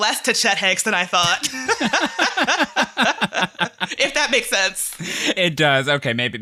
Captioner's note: laughter